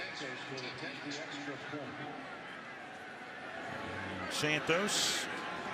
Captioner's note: pa announcement